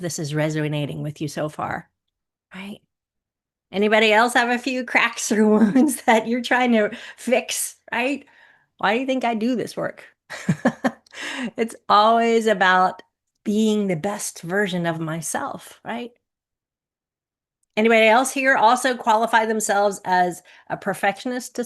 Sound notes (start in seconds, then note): 10.3 chuckles